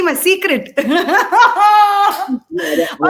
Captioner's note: laughs